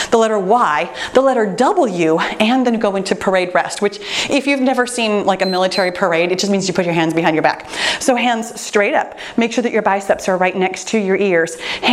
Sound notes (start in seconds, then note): 5.4 timer beeps